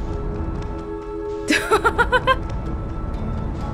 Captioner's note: laughs